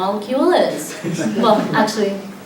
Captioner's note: light laughter